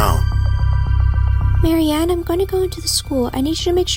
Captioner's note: whispers and walks over to Marianne